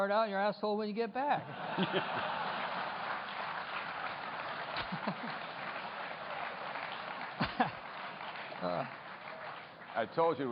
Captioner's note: laughter